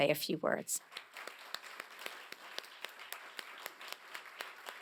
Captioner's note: applause